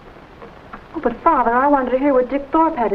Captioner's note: radio clicks off